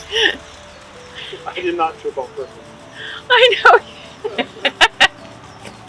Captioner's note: chuckling